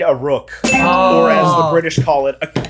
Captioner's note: bell dings